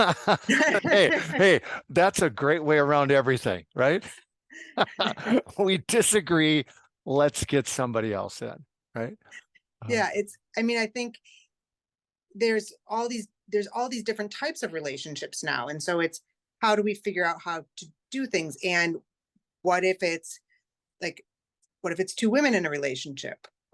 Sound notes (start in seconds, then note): 0.0 laugh; 4.6 laugh